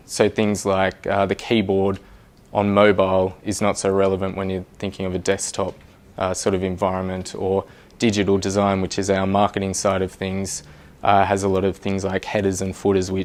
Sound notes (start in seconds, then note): none